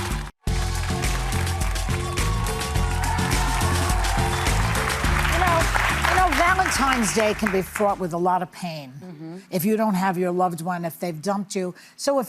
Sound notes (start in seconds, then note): 0.0 upbeat music; 5.1 audience applauding